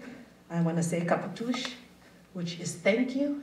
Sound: speaking Wampanoag

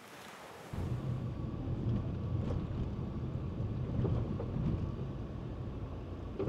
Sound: wind blowing

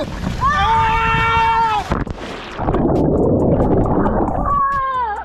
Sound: water burbles; all screaming; screaming

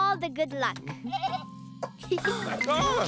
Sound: Moyo bleating; laughing

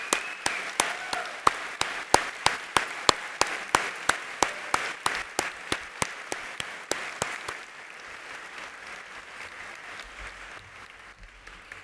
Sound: applause

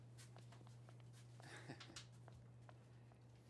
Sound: Ola chuckles

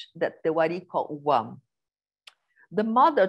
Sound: non-english speech

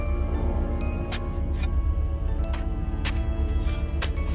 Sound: trowelling sand

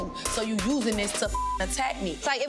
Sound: beep

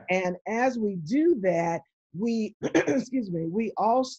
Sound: clearing throat

